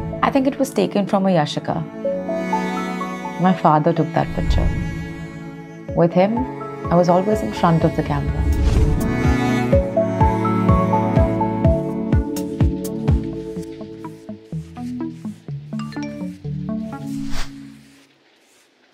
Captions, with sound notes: I think it was taken from a Yashica. My father took that picture. With him, I was always in front of the camera. (email notification pings)